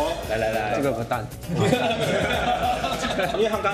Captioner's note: Laughters